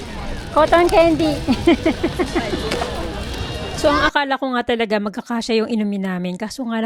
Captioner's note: laughter